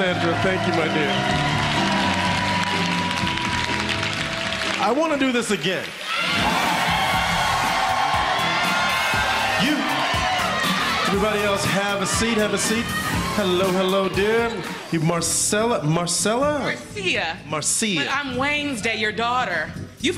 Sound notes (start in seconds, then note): 9.1 cheers and applause